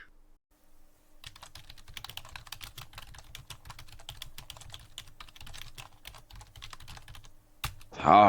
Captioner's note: typing